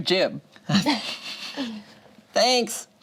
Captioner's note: group laughing